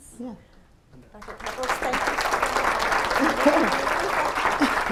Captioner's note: applause